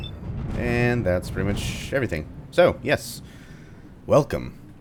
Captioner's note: thunder